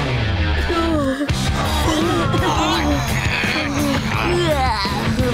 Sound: groaning

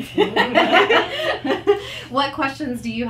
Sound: participants laugh

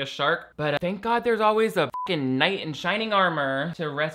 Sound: beep

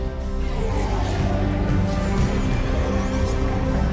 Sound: dramatic music; engines whooshing

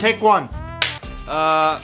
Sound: clap

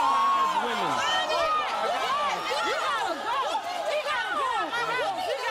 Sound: cheers

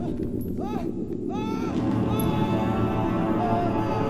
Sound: screams

